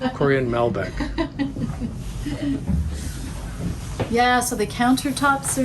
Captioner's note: laughs